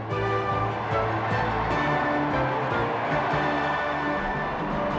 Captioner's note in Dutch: publiek juicht